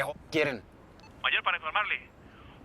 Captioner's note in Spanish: Voz en la radio